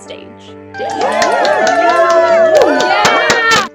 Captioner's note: cheers